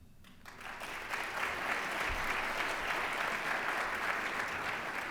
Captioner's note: applause